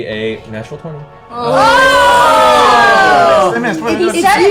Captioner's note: shouting